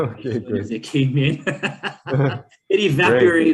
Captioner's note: people laughing